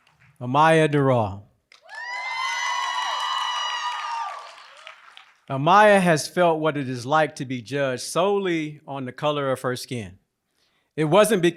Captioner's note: applause